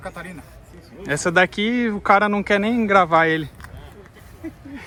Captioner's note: laughs